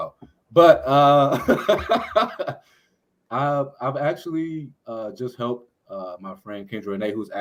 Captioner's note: laughs